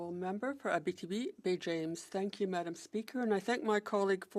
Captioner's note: speaking French